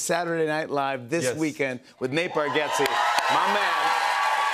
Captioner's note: cheers and applause